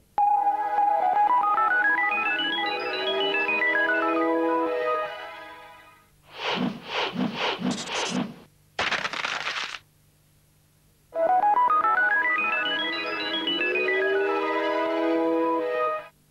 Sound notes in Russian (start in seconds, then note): 8.8 шорох